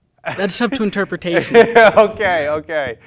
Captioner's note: laughing